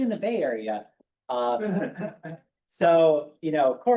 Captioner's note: chuckling